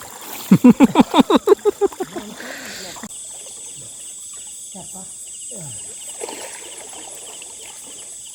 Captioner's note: laughs